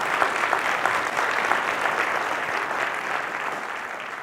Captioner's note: crowd applauding